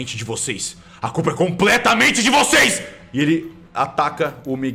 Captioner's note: screaming